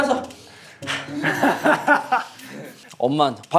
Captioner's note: laughing